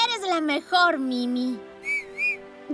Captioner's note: Mimi whistles